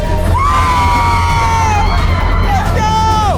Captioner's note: group screaming